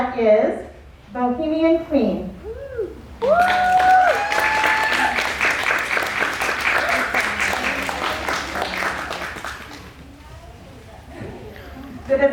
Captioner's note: cheers and applause